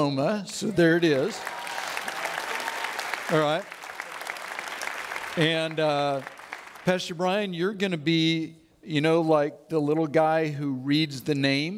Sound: audience Applauds

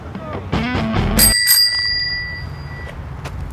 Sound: bell rings

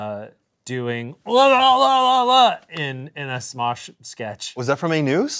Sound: babbling

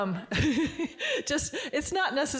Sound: Barbara giggling

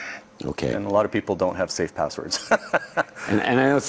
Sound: chuckles

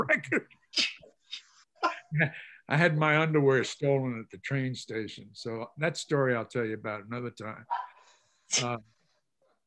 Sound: laughs

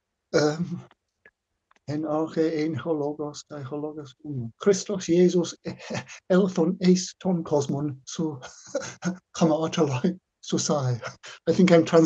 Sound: speaking Greek

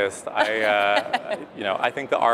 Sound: laughs

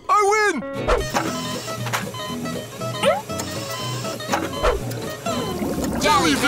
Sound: beeping

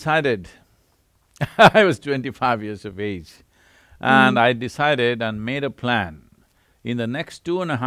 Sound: laughs

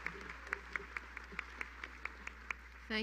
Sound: applause

